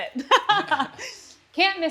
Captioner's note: laughter